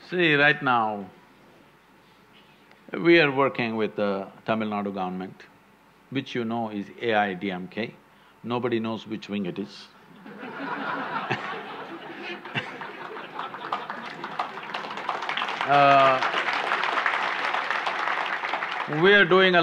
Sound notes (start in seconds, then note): 14.7 laughter/Applause